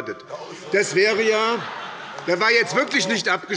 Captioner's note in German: Heiterkeit